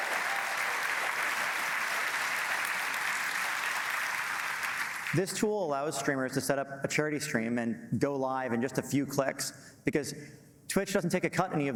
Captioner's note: applause